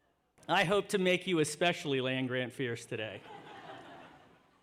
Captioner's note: laughter